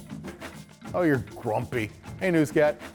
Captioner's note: voiceover